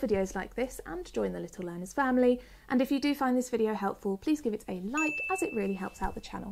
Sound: 'ding' sound effect

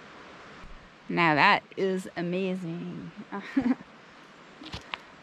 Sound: laughs

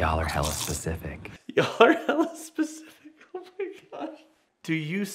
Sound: laughs

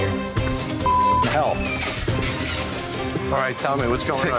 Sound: beeping

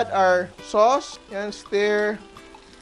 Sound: sizzle

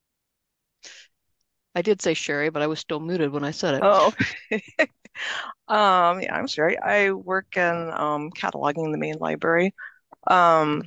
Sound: laughs

